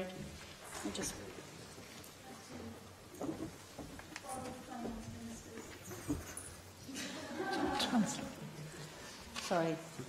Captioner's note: laughter